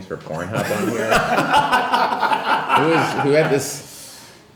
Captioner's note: laughing